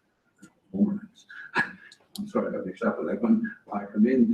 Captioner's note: laugh